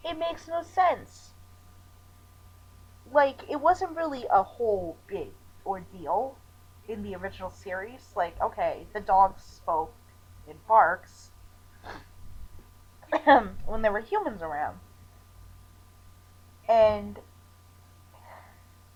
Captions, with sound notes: It makes no sense! Like, it wasn't really a whole big ordeal, in the original series. Like okay, the dogs spoke...in barks, (clears throat) when there were humans around. And...